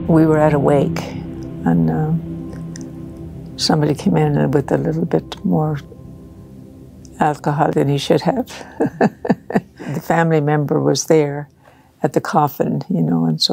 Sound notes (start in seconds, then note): 8.5 laughing